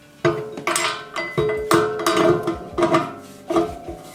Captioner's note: metal clanging